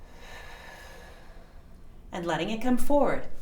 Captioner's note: exhaling